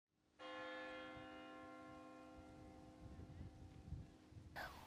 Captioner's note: church bell tolling